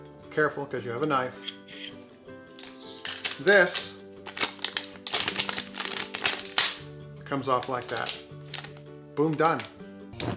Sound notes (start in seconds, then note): 7.4 label crinkling